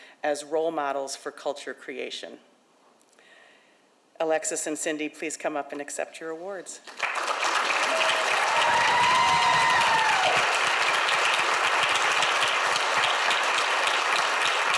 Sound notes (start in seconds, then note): 6.8 audience applauds; 7.1 audience cheers